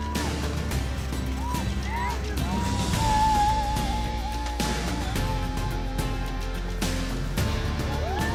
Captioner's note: cheers and Applause